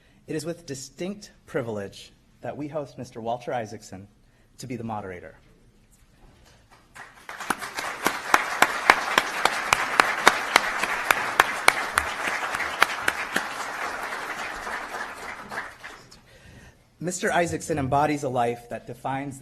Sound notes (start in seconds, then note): 6.7 applause